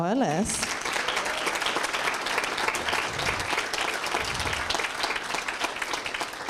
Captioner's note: applause